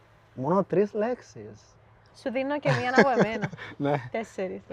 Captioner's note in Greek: γέλια